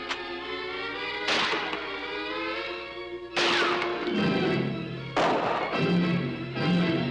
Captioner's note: gun clicking; bullets ricocheting; guns firing